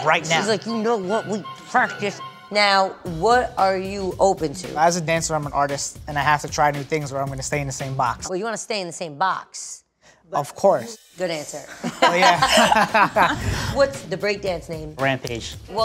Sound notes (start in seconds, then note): 10.2 laughing